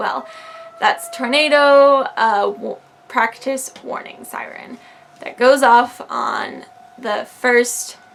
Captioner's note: siren going off